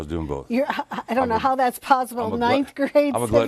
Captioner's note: laughs